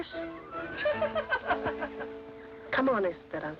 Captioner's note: laughter